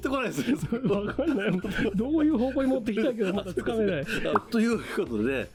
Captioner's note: laughter